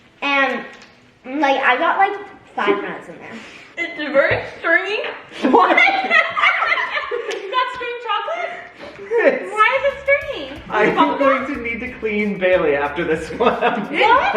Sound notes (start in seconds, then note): 5.4 all laugh